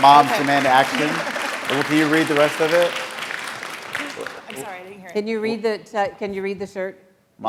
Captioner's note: applause